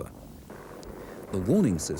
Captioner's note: plane buzzes